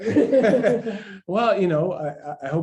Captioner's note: laughter